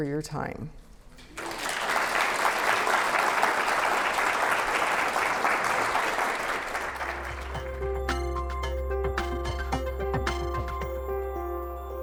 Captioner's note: applause